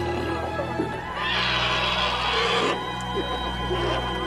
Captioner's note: baby elephant roars